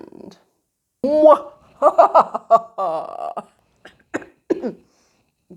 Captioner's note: cough